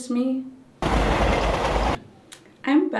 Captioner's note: rattle echoes